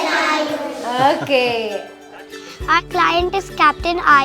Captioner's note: laughs